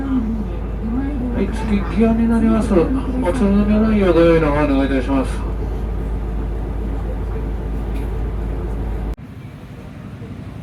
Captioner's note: laughs